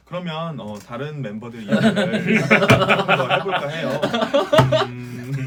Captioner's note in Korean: 빵터짐